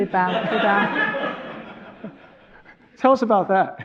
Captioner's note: audience laughing